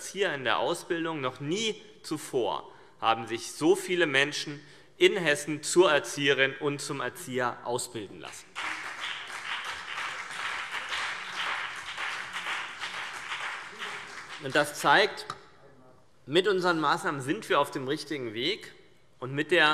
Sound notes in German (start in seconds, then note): 8.4 Beifall CDU und BÜNDNIS 90/DIE GRÜNEN